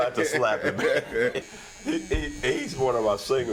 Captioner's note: laughing